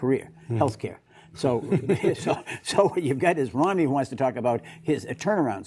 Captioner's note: laughter